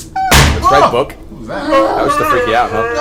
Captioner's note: loud bang offscreen